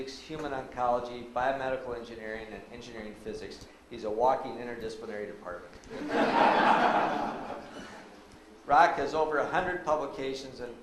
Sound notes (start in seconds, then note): 5.9 audience laughs